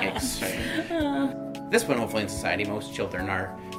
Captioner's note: laughing